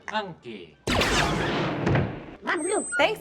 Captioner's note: speaking non-english; blasters firing